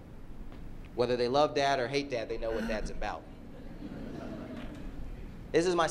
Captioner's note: laughter